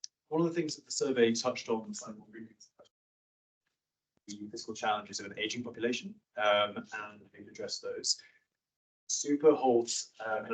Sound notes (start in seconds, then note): 2.2 audio cuts out